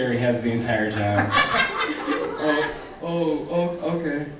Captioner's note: laughing